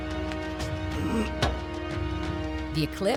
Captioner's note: grunting